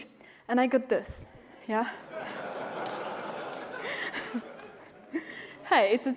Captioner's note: laughter